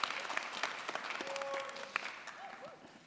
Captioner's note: yelling